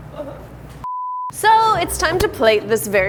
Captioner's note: beep